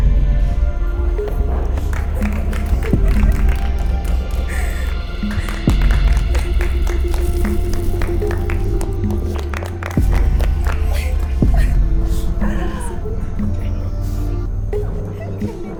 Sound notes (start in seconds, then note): 1.7 cheers and applause